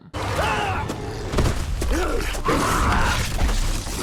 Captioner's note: Jacob screams; Jacob grunts; wolf snarls